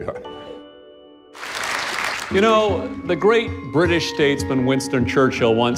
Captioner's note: applause